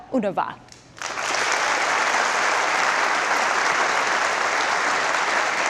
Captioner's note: audience applause